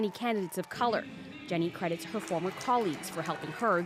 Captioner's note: applause